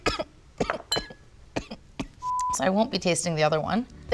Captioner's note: coughing